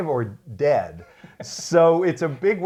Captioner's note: laughs